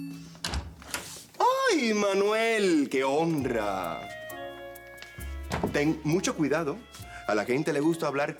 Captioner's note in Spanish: Sonido al abrir la puerta